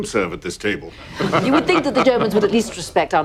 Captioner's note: laughing